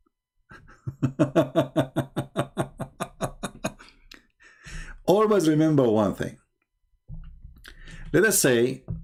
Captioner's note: Ketawa